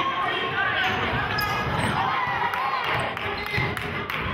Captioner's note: yelling